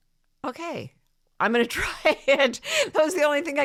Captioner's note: laughs